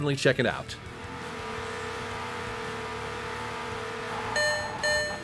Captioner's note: sports car engine humming; harsh beeping